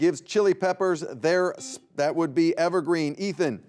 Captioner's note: buzzer beeps